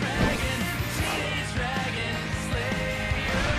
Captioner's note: none